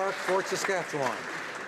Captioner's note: applause